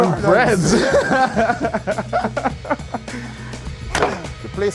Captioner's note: laughs